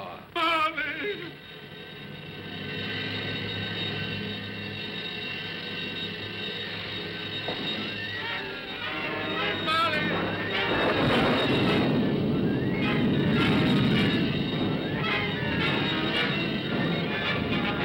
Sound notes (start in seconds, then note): 1.9 haunting music; 8.1 dramatic ominous music; 10.6 dramatic ominous music; 10.6 thunder rumbles; 17.0 dramatic ominous music